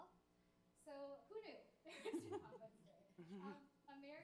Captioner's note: attendees chuckling